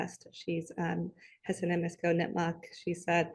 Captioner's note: speaks in foreign language